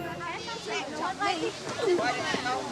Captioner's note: kids chattering